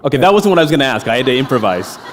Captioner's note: laughter